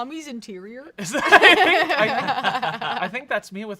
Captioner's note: both laugh loudly